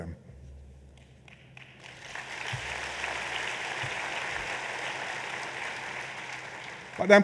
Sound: applause

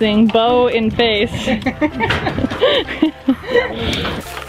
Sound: laughter

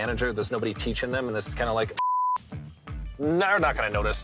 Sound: beep

